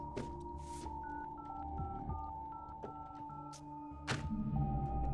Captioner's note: dial pad beeping